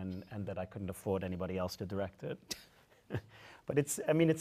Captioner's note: chuckles